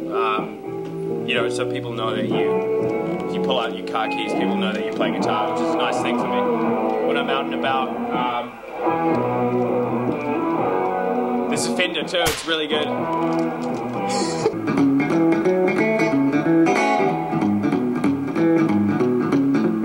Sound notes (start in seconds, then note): 12.2 whip crack; 15.2 upbeat bluesy guitar music